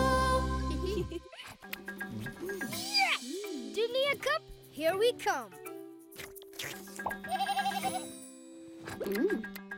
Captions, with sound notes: (giggling) - Yeah! Dunia Cup, here we come! (bleating) - Mmm!